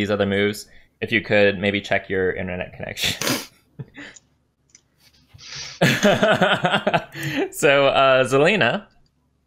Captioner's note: laughs